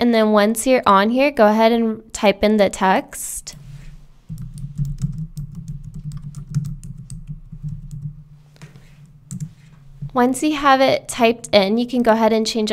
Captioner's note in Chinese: 敲击键盘的声音